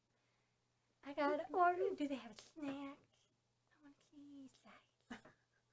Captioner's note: quietly; chuckles